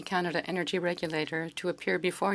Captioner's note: speaking French